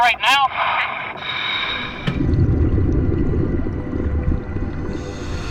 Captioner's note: water rushing